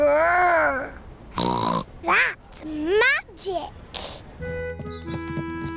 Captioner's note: snorts